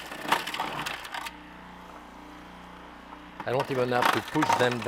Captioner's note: food processor whirring